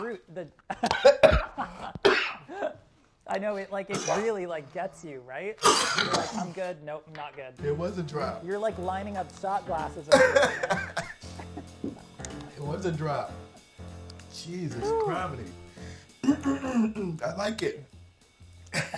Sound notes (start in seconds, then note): 0.6 laughing; 0.6 coughing; 5.6 coughing; 10.0 laughing; 16.2 clearing throat